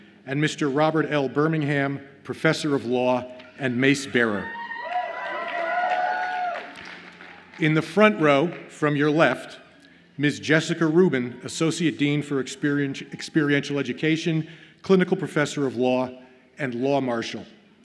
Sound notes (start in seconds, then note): 3.8 audience cheers